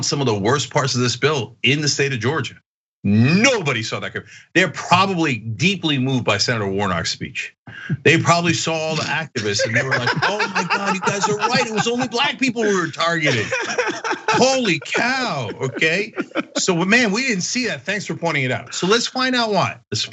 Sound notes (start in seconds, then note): 10.3 laugh; 13.8 laugh